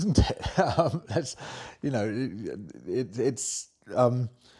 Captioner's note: laughs